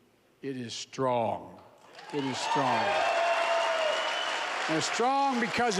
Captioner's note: applause